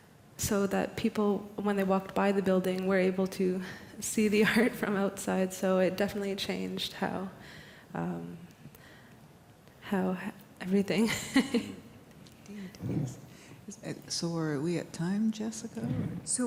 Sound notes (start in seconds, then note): 11.0 laughter